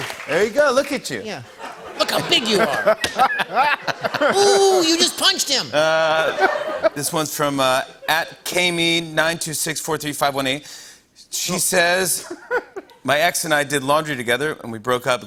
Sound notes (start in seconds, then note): 1.5 laughter; 5.9 laughter